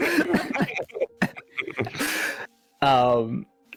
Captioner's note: residual giggles